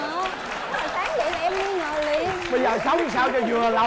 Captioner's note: applause